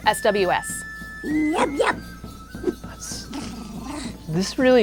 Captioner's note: speaking ewok